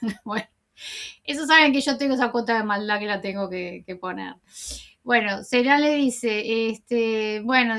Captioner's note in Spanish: risas